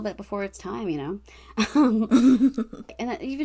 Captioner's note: laughs